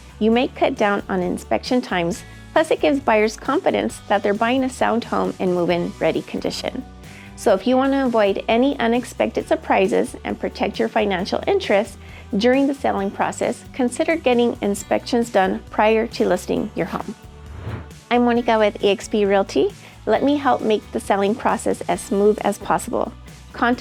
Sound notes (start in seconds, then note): 17.4 air whooshing